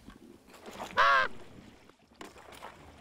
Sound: caws

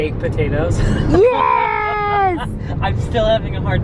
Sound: laughing

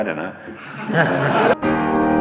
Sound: audience laughter

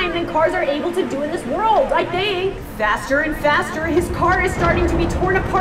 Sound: none

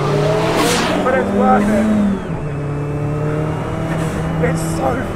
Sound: car engine roars

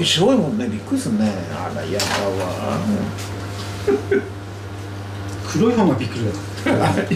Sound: laughs

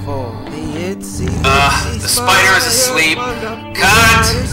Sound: snoring sound

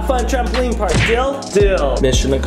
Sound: palms smack

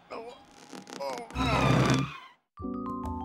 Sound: moans

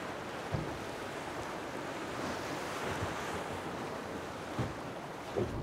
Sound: waves lapping

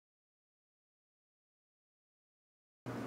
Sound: pause

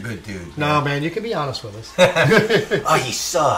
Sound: laughing

